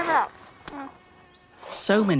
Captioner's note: smack